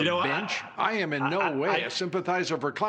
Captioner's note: laughter